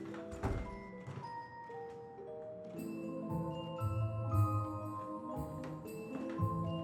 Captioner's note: gentle upbeat music; door banging